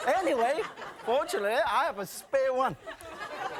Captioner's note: audience laughing